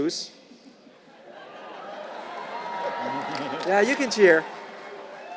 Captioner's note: laugh; applause